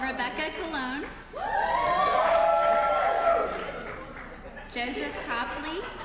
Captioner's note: applause